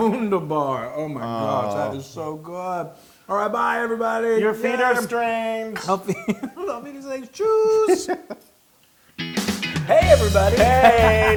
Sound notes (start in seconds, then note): 5.7 laugh